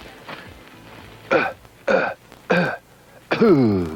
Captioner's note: coughing